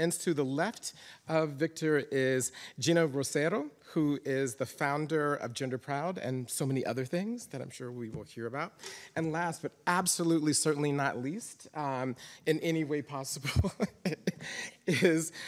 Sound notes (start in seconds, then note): 13.4 chuckles